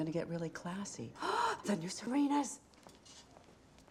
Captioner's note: gasps